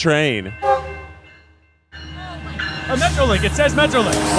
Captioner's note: train horn tooting